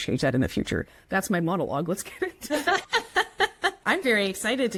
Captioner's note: both laugh